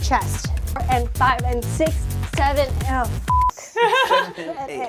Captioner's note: beep